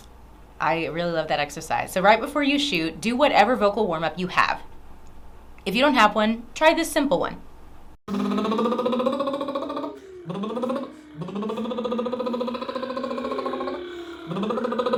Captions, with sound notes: I really love that exercise. So right before you shoot, do whatever vocal warmup you have. If you don't have one, try this simple one. (Bubbling)